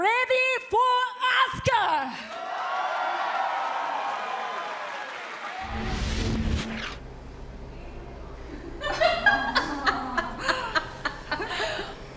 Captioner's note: crowd cheering